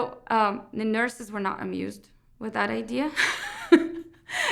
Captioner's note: laughs